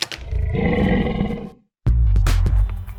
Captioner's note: lion roars